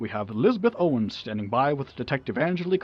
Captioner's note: none